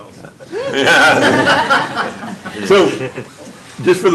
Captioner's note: laughing